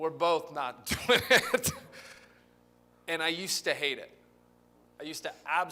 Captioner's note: laughter